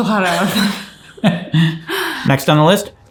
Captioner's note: laughing